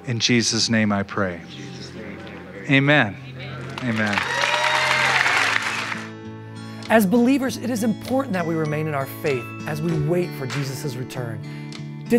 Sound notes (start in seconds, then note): 3.6 applause